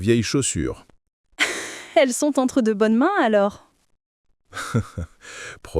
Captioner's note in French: rire